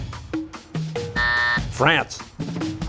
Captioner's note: buzzer